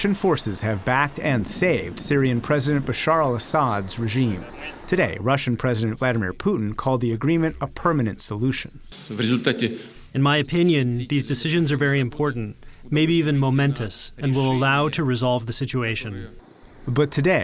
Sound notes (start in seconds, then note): 9.8 through translator